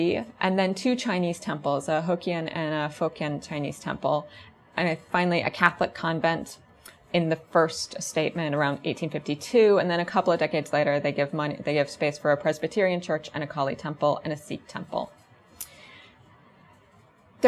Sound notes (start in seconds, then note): none